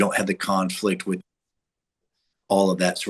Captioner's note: audio cuts out